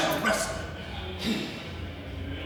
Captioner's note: grunt